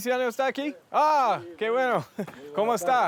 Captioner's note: speaking Spanish; both speaking Spanish